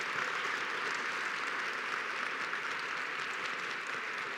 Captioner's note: applause